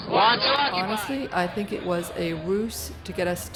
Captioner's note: voiceover